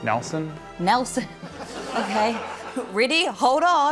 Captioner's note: chuckles